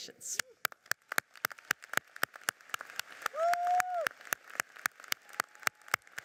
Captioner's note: audience cheers and applauds